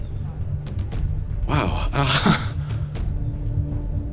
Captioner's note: chuckles